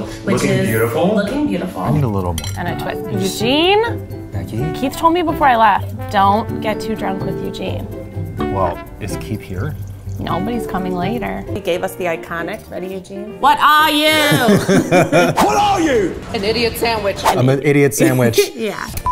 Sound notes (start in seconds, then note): 14.1 laughing